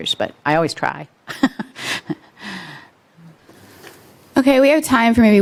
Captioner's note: chuckles